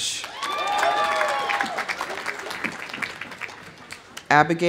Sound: audience applauding; audience cheering

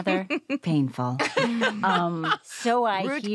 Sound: laugh

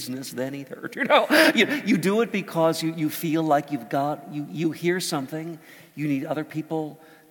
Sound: laugh

